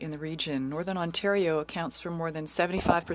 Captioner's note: speaking French